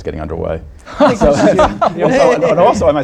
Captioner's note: laughter